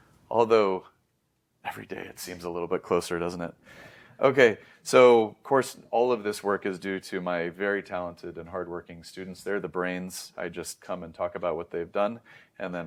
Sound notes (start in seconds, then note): 3.6 inhales; 12.2 inhales